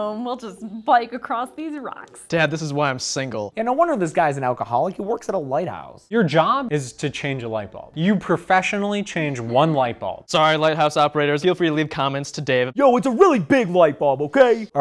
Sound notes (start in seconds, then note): none